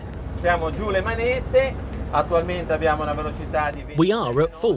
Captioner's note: man speaking in foreign language